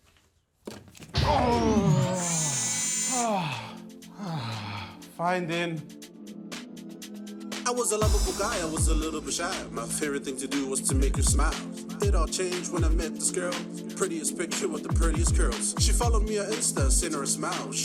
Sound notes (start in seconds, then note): 1.1 electrical hum, whirring; 4.1 sighs in relief